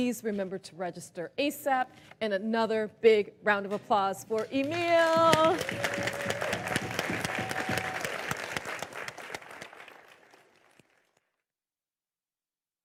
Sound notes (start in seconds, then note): 5.2 crowd cheering